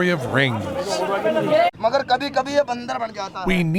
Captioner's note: non-english speech